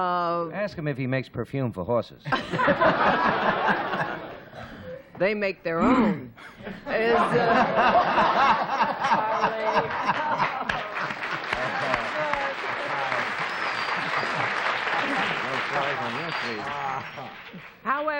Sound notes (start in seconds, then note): 8.2 applause; 12.9 chatter